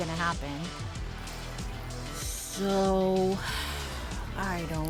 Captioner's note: sigh